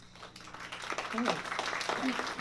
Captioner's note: applause